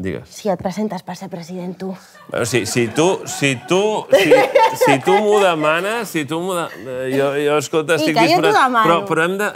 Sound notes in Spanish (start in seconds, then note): 2.2 risas; 7.9 ríe